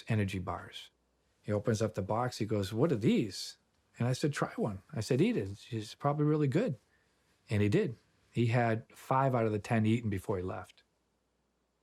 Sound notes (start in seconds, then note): none